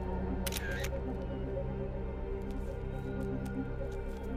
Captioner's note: camera clicking; mysterious music